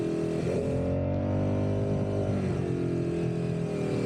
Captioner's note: engine roaring